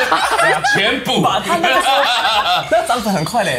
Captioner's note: laughs